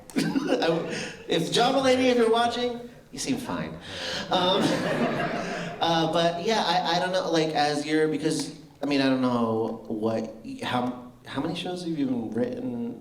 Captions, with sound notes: if — John Mulaney if you're watching you seem fine [laughter] but, yeah, I don't know like as you're, because — I mean I don't know what how — how many shows have you written?